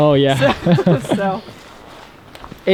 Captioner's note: both laugh